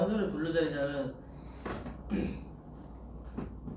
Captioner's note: clears throat